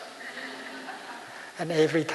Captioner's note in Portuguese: Risos